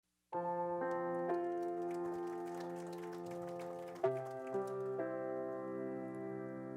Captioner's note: dramatic piano music; applause